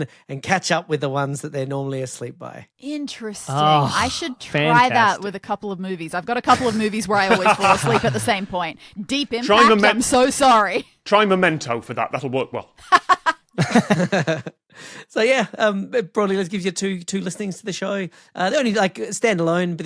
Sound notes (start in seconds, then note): 12.9 cackles; 13.5 laugh